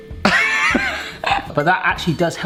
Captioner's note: laughs